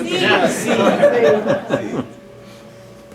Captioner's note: laughter